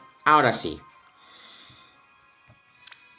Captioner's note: taking air